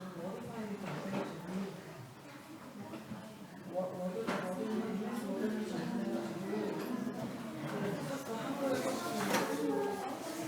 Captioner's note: background chattering